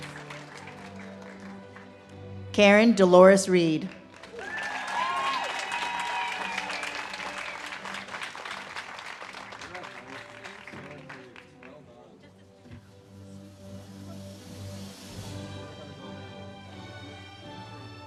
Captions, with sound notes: Karen Dolores Reed. (audience cheers and claps) - Congratulations, well done. (stately music)